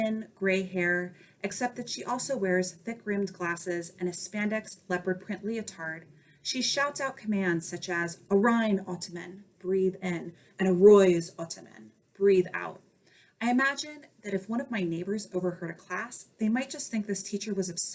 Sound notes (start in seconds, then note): 9.8 breathe in; 13.0 breathe out